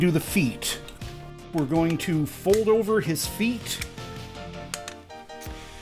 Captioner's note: toy-clicking ASMR